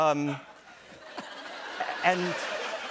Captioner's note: laughter